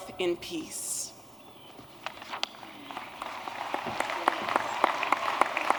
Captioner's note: applause